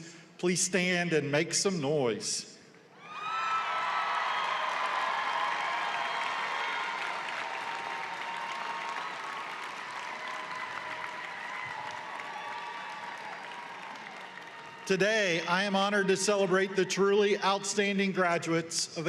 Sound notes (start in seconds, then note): 5.8 cheering and applause